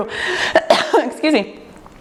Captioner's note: coughs